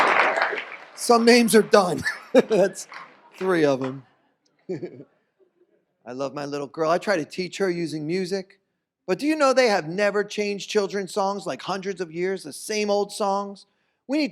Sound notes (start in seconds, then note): 0.0 applause; 1.0 laughs